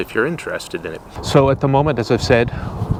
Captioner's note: traffic rumbling